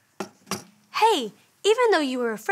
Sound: lantern thudding

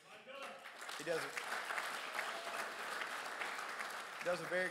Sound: crowd applauds

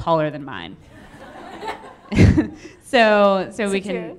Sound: audience laughing

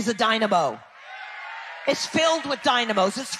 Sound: people cheering

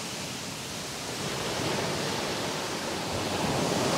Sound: the sound of the Ocean’s waves splashing against the beach

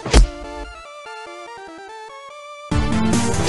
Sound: smack

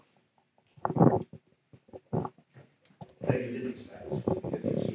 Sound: microphone shuffling

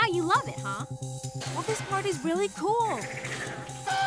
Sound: clattering

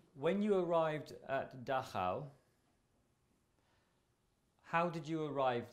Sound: pauses for 3 seconds

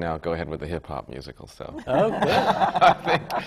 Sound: laughter

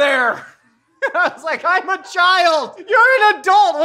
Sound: laughs

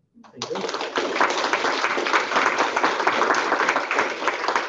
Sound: applause

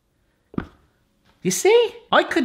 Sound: soft clunk

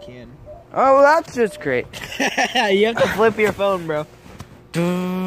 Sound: laughs

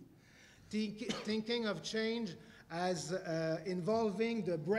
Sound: cough

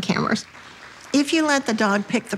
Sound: attendees applauding

